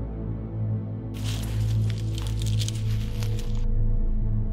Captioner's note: leaves rustling